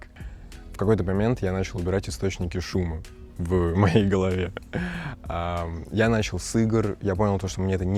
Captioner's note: sighs heavily